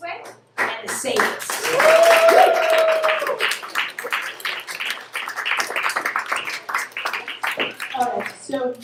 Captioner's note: applause